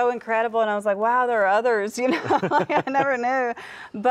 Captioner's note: laughs